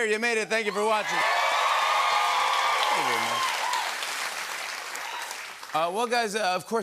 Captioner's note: cheers and applause